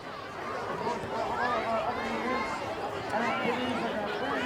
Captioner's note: people chattering